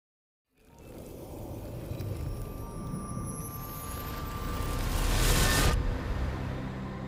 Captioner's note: whooshing; light ambient music